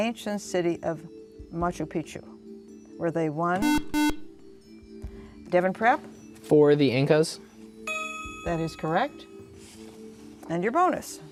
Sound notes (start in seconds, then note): 3.6 buzzer